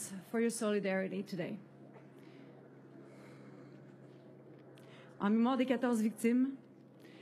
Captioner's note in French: voix de l'interprète